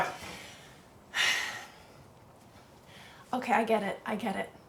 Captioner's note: woman sighs